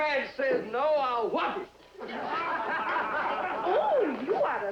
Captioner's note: laughter